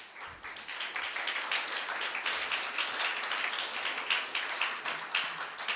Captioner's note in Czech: potlesk